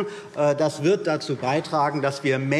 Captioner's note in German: none